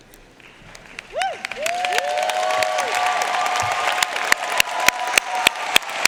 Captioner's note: audience cheering and applauding